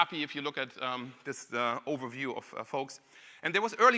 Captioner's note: none